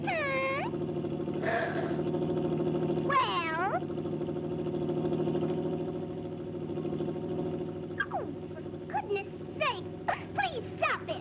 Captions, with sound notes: Hmm! (ooga horn blares) Well? (motor chugs) Oh, for goodness sake, please stop it!